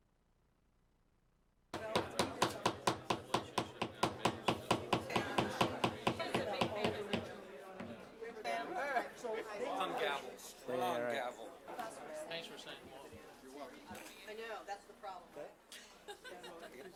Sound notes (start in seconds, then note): 6.1 gavel